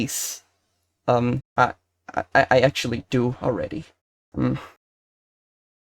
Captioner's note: hmf